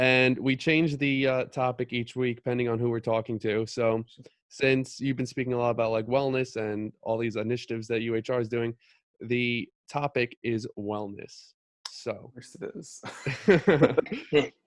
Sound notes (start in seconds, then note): 11.7 tongue smack; 13.0 collective laughter